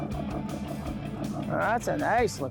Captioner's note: boat engine chugging